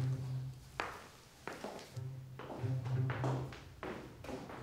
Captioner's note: footsteps plodding